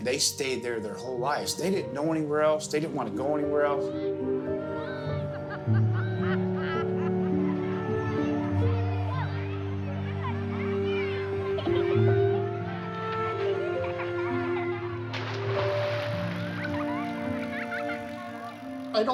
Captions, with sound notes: they stayed there their whole lives. They didn't know anywhere else. They didn't want to go anywhere else. (children yelling) (woman laughing) (children laughing)